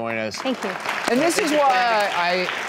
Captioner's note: audience applause